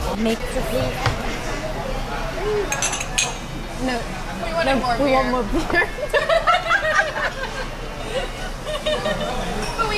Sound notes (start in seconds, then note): 5.9 laughing